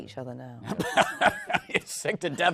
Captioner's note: laughs